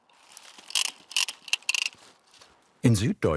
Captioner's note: quiet rattling of the tool